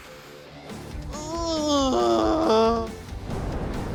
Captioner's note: groans joyfully; dramatic music plays